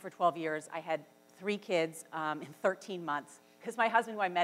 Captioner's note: laughs